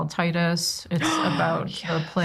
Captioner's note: gasps